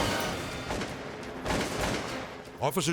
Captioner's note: gunshots booming